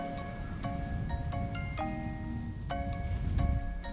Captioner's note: wind blowing